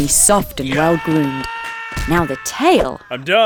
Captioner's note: sounds of violence